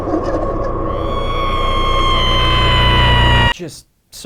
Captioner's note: turkey gobbles, cackles; screams